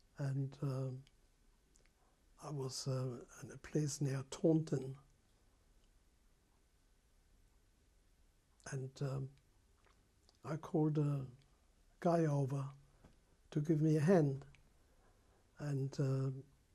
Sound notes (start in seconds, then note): 5.2 pauses for 3 seconds